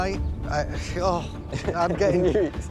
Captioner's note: stammers; chuckling